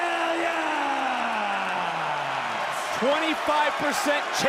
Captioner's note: crowd cheers